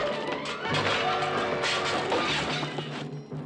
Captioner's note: crashing